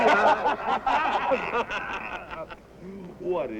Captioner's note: men laughing